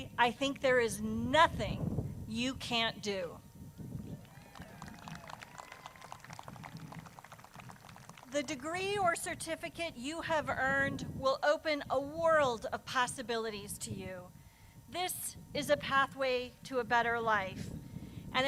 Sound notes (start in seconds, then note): 4.2 crowd claps